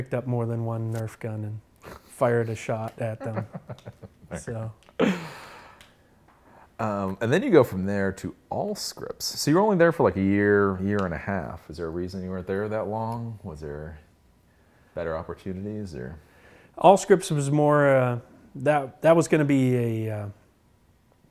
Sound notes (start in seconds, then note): 3.2 laughs